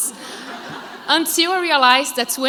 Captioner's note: crowd laughs